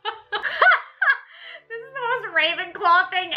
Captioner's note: laughs